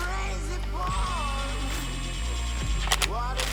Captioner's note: machines whirring